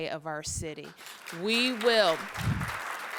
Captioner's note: applause